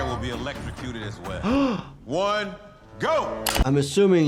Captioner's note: gasping